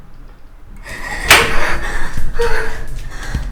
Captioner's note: gasps